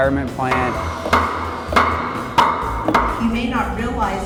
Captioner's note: hammer pounding